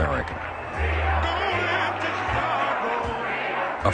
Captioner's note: crowd noise